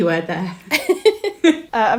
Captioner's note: laughing